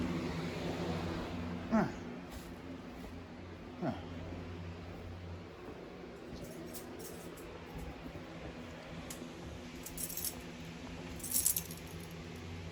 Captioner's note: grunts slightly as she walks